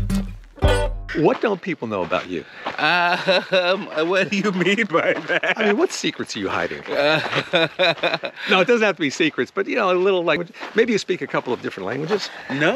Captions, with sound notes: What don't people know about you? - Um, what do you mean by that? (laughs) - I mean, what secrets are you hiding? (Ron laughing) No, it doesn't have to be secrets, but you know a little... Maybe you speak a couple of different languages?